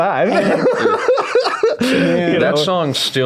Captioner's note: laughing